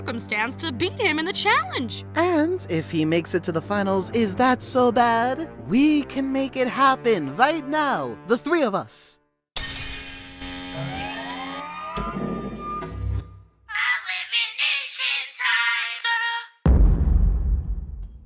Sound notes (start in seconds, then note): 9.2 boom!; 16.6 thud